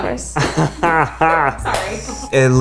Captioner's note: laughs